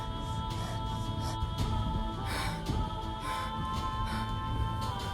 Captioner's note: heavy breathing